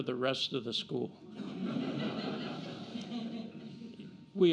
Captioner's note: laughter